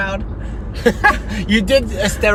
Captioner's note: laughing